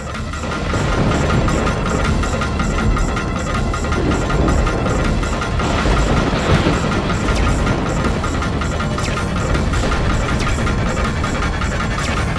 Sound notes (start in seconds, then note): 5.4 thundering